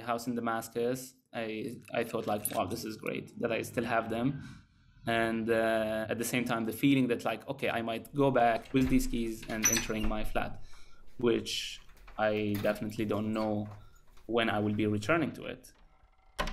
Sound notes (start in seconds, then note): 8.2 keys unlocking door